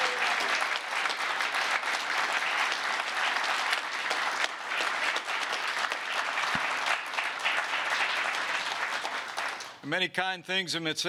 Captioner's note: applause